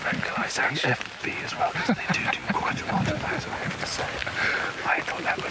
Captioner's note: Stephen whispering